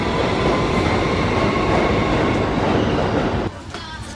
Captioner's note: train rumbling